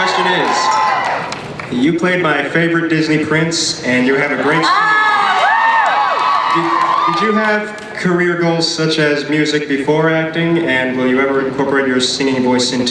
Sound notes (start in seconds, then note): 4.3 audience cheers